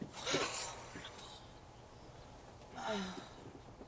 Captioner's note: Farrah sighs